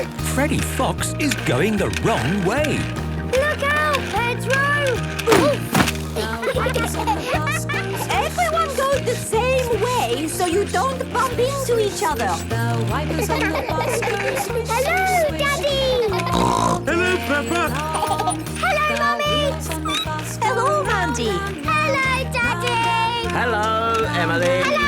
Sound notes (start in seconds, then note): 6.1 laughter; 13.0 laughter; 15.9 snorting; 16.9 laughter; 19.9 squeaking